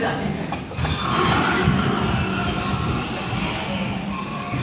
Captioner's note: farm animal sounds